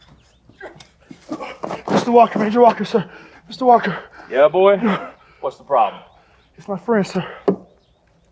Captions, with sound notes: (groans) - Mr. Walker, Ranger Walker, sir. Mr. Walker. - Yeah, boy? What's the problem? - It's my friends, sir.